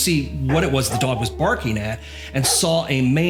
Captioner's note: dog barking; woof woof woof